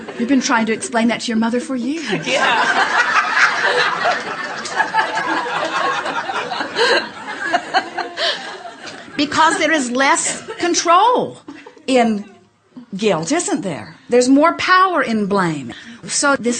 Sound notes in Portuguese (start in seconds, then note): 0.0 o público e convidada riem; 2.1 o público e convidada riem